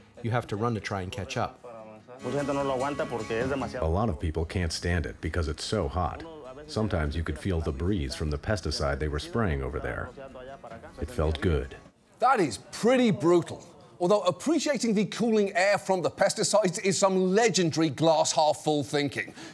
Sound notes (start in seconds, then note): 2.8 speaking spanish